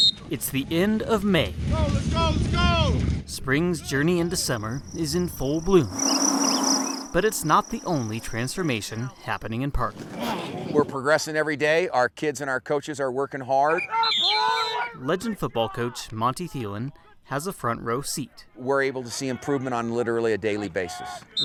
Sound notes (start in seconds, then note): 5.9 birds chirping; 13.8 whistle